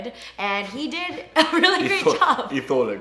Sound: laughs

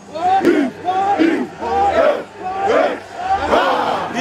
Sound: chanting

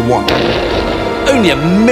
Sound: melancholy music; explosion booms

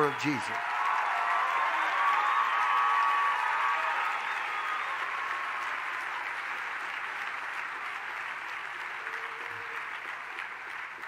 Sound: congregation cheers

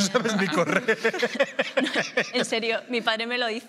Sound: laughs

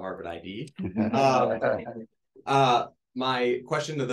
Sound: panelists and audience members chuckling

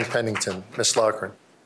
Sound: applause

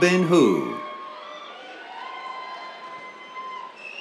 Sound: cheers

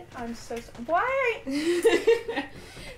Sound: laughter

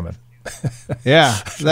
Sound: laughing

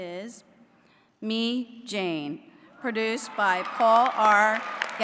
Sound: applause

